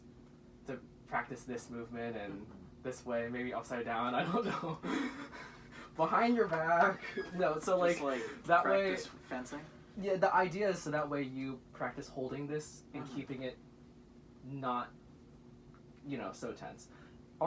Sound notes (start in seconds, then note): 4.2 laughs; 4.8 wheezes